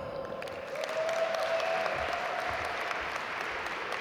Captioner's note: audience applaud